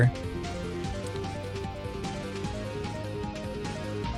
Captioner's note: mouse clicks